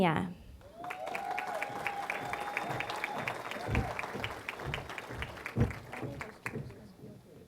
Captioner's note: applause